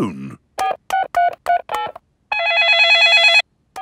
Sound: dialing; cell phone ringing

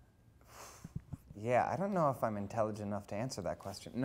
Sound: scoffs

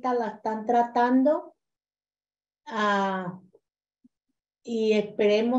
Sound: continues speaking in Spanish

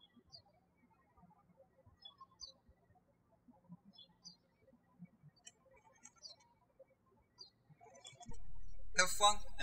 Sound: birds chirping

